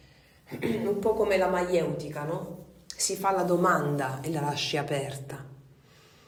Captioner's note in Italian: schiarire la voce